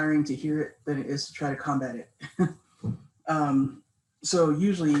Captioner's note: laughs